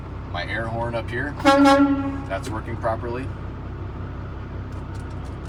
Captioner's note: horn honking